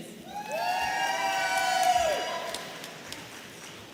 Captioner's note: audience cheering